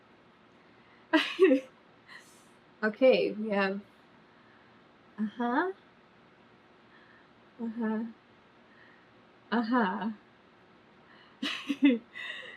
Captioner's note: laughs